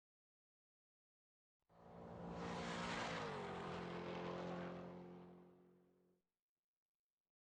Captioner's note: car engine racing